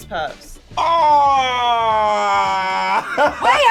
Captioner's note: groaning